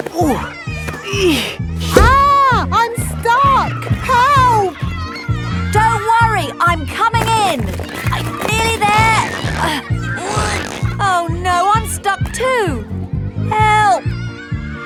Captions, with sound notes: (GRUNTING) Ah! I'm stuck! Help! Don't worry! I'm coming in! I'm nearly there... (GRUNTING) Oh, no. I'm stuck too! Help!